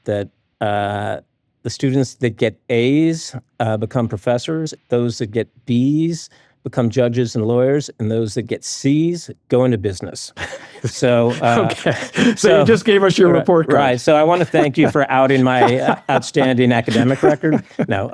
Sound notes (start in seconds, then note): 10.3 laughs